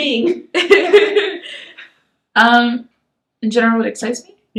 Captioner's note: both laugh